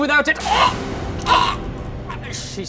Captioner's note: chokes